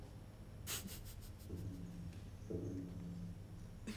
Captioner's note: Claudius laughs